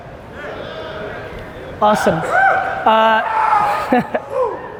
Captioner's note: people in audience shout out